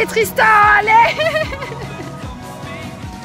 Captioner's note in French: rires